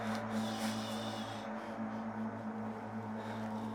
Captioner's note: shushing